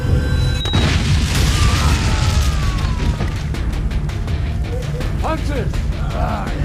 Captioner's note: suspenseful music; booming; men screaming